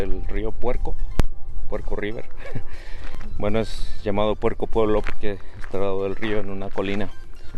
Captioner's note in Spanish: risas